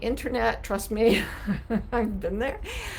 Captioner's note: chuckling